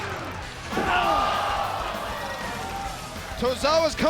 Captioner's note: crowd exclaiming